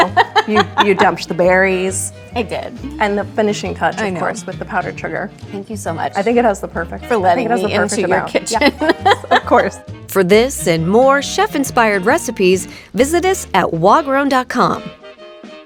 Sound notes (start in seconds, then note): 0.0 laughing; 8.5 laughs